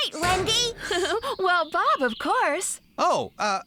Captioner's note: chuckles